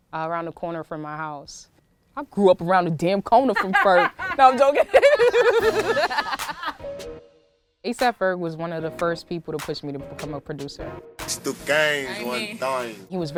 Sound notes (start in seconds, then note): 5.2 laughing